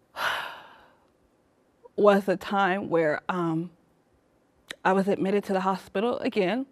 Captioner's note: sighs